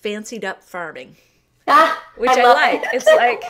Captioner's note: laughter